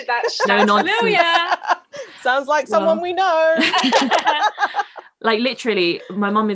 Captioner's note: laughing